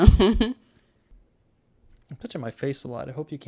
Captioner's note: laughs